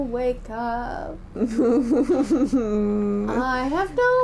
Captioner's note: laughing